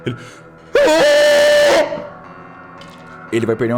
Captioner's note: scream